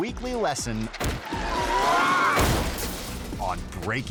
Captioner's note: bike skidding; bike revving; logo shattering